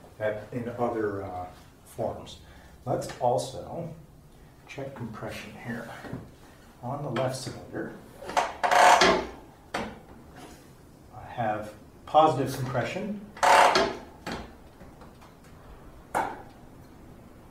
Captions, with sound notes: in other forms. Let's also check compression here. On the left cylinder [Loud ratcheting noise] I have positive compression. [Loud ratcheting noise]